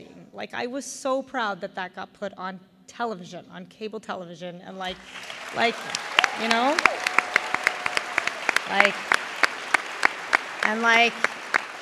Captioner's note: raucous applause due to cinematic stairs event